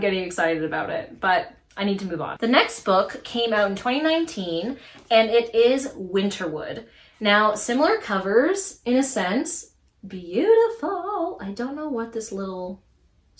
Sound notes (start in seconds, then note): 9.1 sing song voice